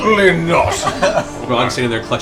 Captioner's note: laughter